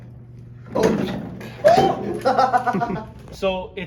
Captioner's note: laughing